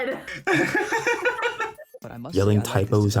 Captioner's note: both laughing